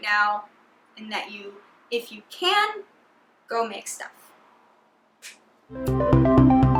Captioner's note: claps hands; joyful bright music